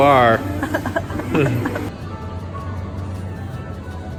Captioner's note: fake cough-crying